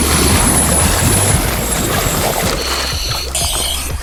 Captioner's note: water bubbling